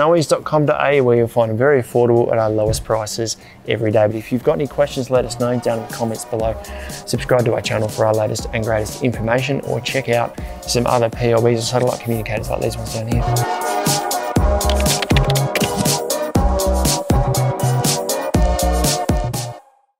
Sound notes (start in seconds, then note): 13.7 upbeat music; 14.6 keyboard clunking; 16.4 upbeat music